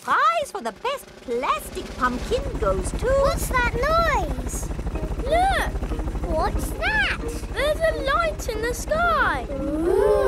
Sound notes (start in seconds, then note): 3.1 helicopter approaching